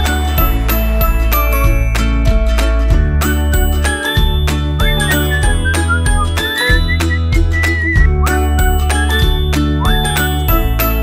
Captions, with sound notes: They carry 25,000 volts of Electricity *whistling* So be aware of your surroundings